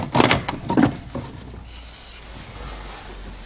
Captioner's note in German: Ticken stoppt